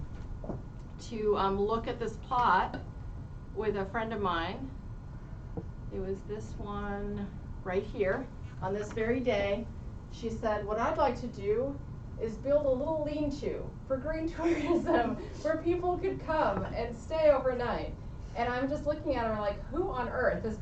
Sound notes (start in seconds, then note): 14.4 laughs